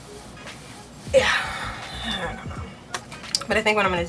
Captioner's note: deep breath